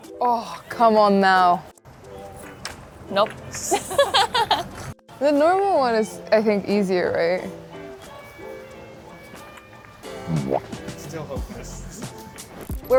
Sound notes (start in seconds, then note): 2.5 balls clanging; 3.7 host laughing; 10.1 playful music